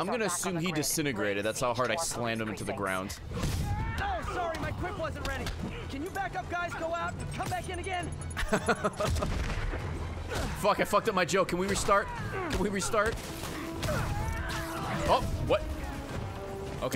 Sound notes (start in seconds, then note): 8.4 laughs